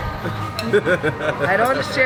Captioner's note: laughing